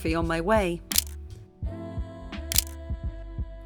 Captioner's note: camera clicks